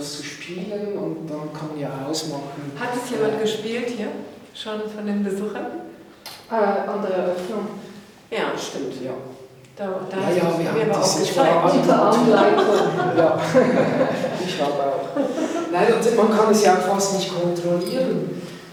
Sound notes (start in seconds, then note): 10.2 babble of voices